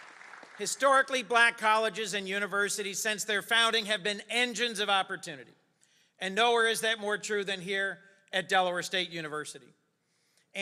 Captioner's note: applause